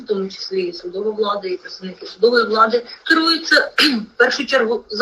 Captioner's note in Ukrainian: прочищення горла